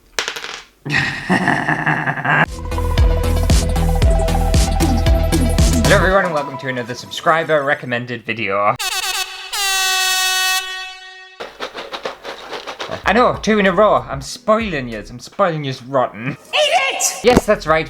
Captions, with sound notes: *Plastic Clatter* *Manic Laughter* *Intro Music* Hello everyone and welcome to another subscriber recommended video! *AIR HORN!!!* *Plastic Rattling* I know two in a row, I'm spoiling yous! I'm spoiling yous rotten! "EAT IT!!" Yes that's right